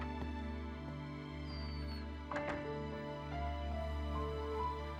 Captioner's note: door creaking